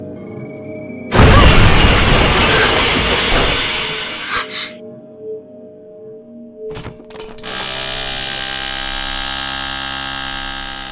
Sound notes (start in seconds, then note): 1.1 loud crash upstairs; 7.2 rustling, floor creaks